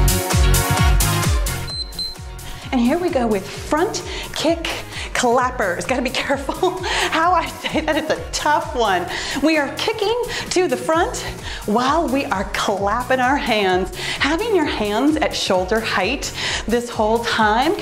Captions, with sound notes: (timer beeps) And here we go with front kick collaborators. Gotta be careful how I say that it's a tough one. We are kicking to the front while we are clapping our hands. Having your hands at shoulder height this whole time